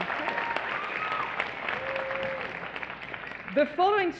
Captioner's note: applause